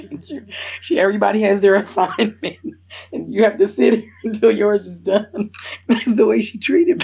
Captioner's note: laughs